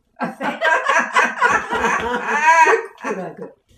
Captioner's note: laughter